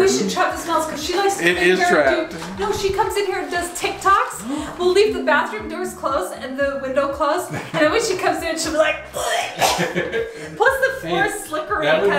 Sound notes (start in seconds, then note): 9.1 gags